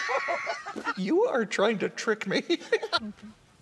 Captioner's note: laughing; laughing